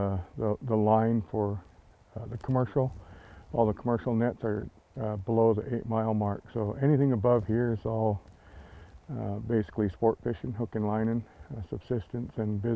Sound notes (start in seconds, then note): none